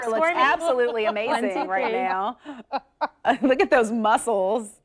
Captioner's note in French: laughter